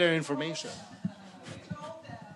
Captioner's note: laughter